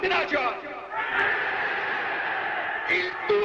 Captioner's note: crowd cheering